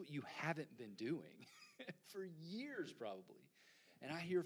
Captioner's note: chuckles